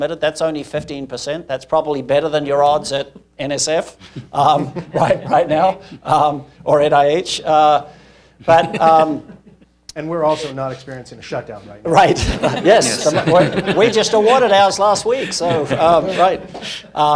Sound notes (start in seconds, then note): 4.0 laughs; 12.0 laughs